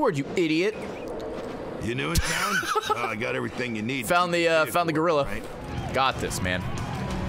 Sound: laughs

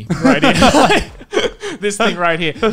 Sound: laughs

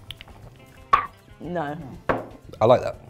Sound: glugging; gagging; glass thuds

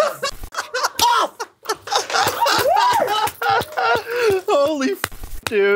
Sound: cracking up

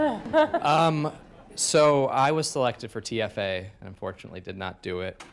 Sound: laughter

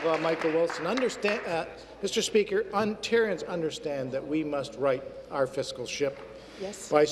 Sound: applause

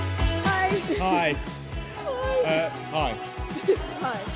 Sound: quietly; nervously laughs

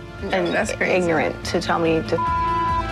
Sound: beep

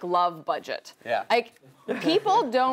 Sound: laugh

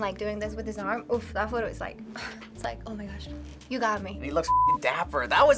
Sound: sighs dreamily

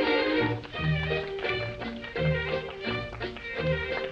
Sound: applause

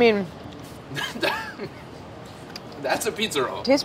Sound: chuckles

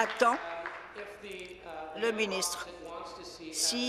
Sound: applause

